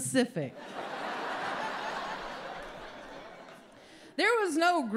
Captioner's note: audience laughs